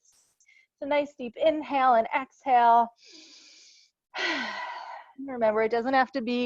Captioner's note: breathes deeply